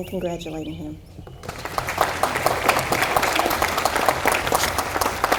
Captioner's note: audience applauding